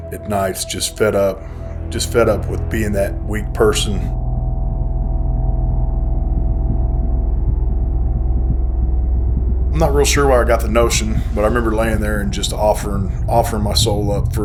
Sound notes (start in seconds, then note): 5.9 heartbeat thumping